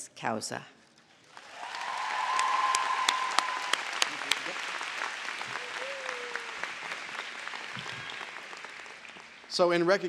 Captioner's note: applause